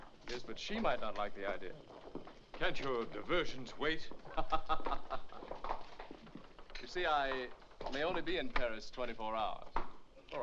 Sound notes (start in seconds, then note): 4.3 Charles laughs